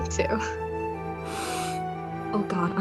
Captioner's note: lucy takes a deep breath